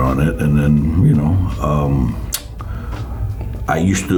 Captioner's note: clicks tongue